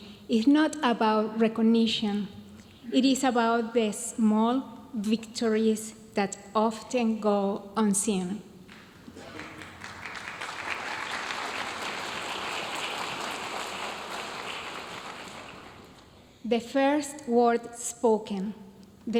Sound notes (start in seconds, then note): 8.7 audience applauding